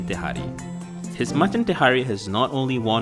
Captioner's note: voiceover